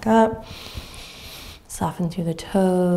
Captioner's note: inhaling deeply